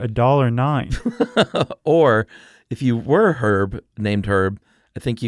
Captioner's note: laughs